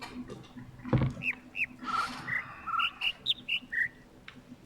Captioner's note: overlapping birds chirping, ˥ ˥ ˩ ˧ ˩